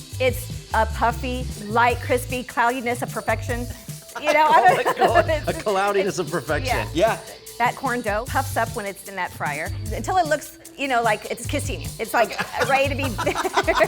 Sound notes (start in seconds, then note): 4.2 laughing